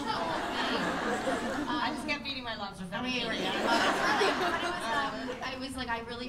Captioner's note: laughter; laughter